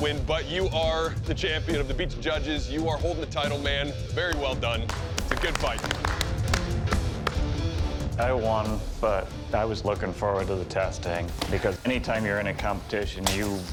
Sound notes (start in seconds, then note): 6.4 applause